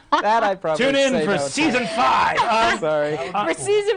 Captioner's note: laughing